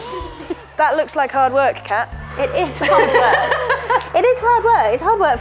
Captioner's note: laughing